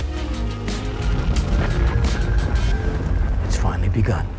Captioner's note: earth rumbling